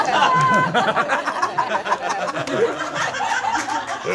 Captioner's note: all laughing